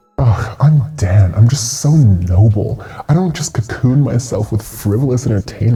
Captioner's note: mocking